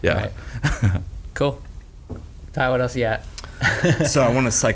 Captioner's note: laughs